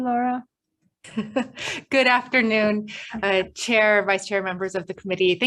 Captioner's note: chuckles